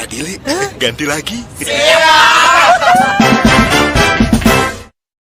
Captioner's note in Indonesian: berteriak